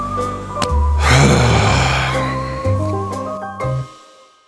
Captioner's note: sighs